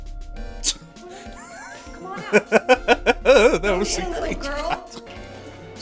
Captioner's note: scoffs; laughter